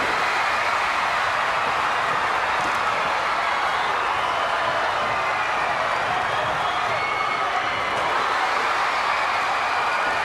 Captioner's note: crowd cheering